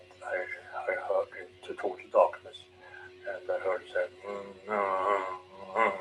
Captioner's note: start humming